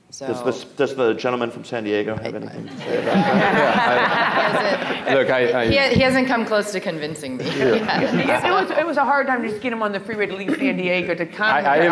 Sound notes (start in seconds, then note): 2.7 people laughing